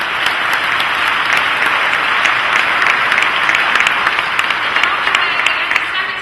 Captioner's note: applause